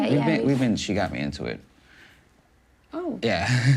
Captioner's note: none